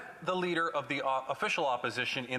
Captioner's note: none